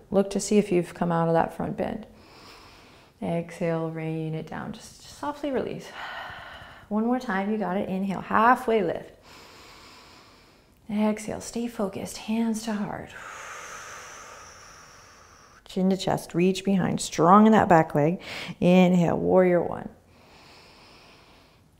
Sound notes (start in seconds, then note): 5.9 exhaling; 9.2 inhaling; 13.1 exhaling; 20.2 inhaling